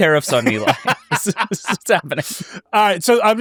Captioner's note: laughing